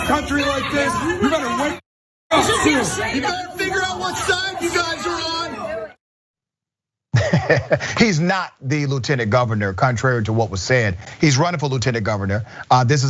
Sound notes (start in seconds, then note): 7.1 laugh